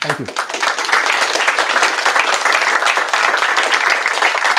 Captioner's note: applause